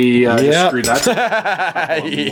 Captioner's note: laughing